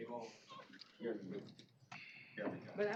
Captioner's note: indistinct chatter